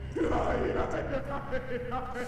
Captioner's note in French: rires diaboliques de tout à l'heure